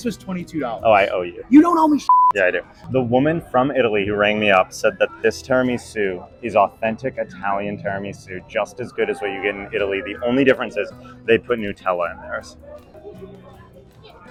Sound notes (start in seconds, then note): 2.0 beep